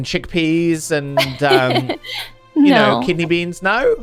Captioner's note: Penelope laughs